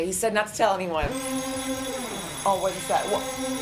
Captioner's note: siren and bells